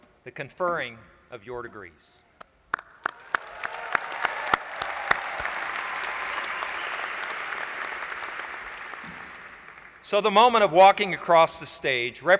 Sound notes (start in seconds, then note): 2.7 applause